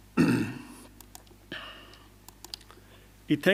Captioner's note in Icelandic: ræskir sig